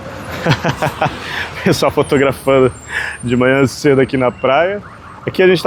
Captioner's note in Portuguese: risadas